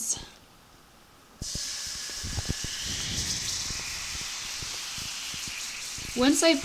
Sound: water sizzling

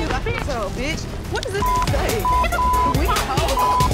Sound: beep

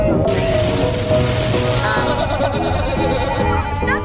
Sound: upbeat music; rain drops shattering; kids laughing

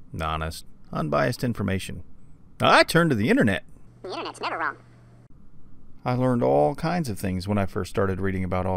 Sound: funny voice; normal voice

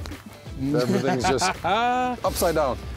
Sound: laughs

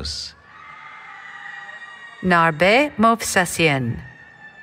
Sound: cheering

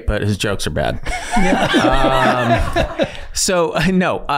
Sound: all laughing

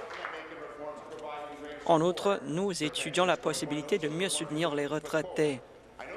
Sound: applause

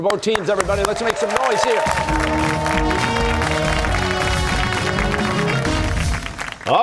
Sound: cheers and applause

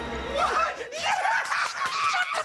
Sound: both cheering

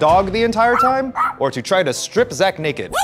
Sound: dog yapping

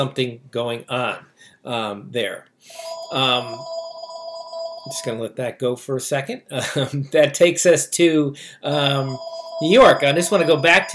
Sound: phone ringing

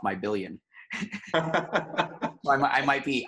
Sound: laughing

